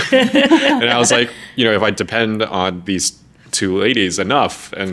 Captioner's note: laughing